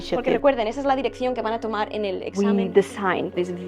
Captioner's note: non-english